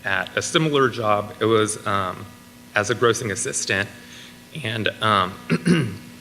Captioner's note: clears throat